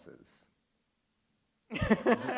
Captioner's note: laughter